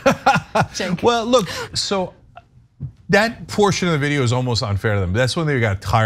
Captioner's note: laugh